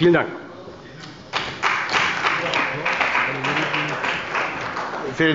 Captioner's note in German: Beifall bei der CDU und dem BÜNDNIS 90/DIE GRÜNEN